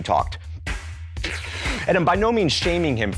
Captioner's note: inhales deeply